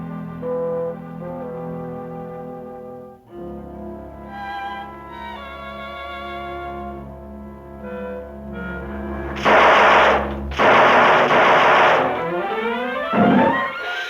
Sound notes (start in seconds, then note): 9.3 gun firing; 11.2 dramatic music